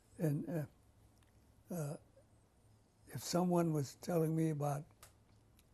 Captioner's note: pauses for 3 seconds